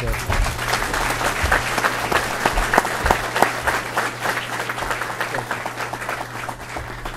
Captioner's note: applause